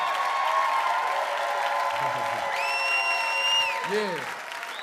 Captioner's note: audience cheering and clapping; Charlie laughing